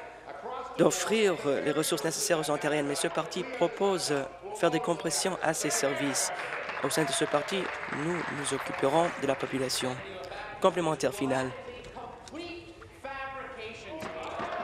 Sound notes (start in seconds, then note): 10.4 applause